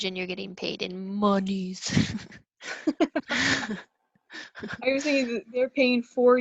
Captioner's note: laughs at my own joke